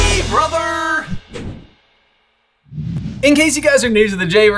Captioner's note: air whooshing